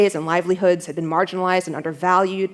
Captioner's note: none